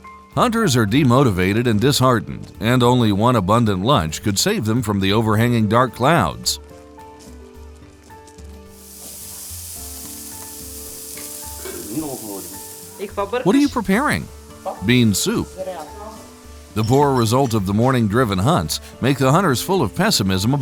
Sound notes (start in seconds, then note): 7.5 gentle music; 10.1 meat sizzling